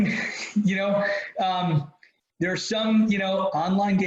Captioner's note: laughs